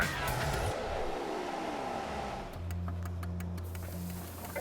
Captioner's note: whirring